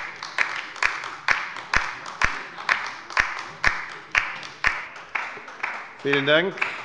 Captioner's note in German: Beifall bei der LINKEN